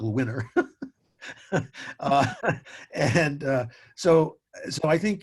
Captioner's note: chuckles